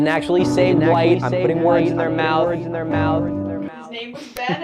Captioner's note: echoing